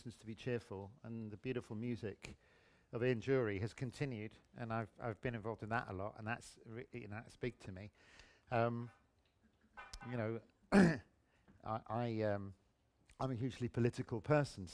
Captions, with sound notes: and Reasons To Be Cheerful and the beautiful music of Ian Dury has continued and I've been involved in that a lot – and that's big to me. You know... (CLEARS THROAT) I, um... I'm a hugely political person